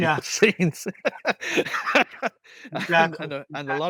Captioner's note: laughs